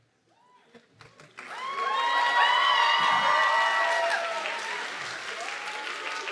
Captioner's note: audience clapping and cheering